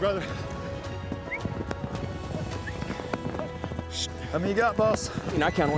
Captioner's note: whistling